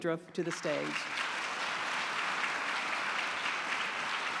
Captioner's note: applause